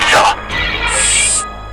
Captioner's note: growl